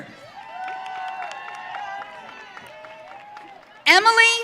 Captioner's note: audience cheering